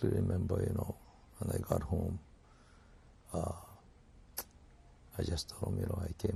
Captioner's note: pauses for 3 seconds